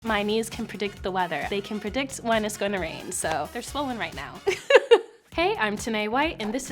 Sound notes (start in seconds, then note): 4.5 laughs